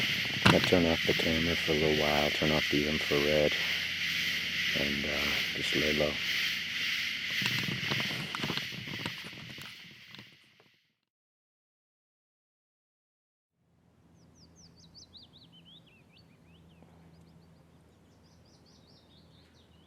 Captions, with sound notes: I'm going to turn of the camera for a little while, turn off the infrared And just lay low (birds chirping)